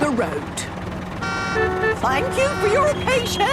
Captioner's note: cars honking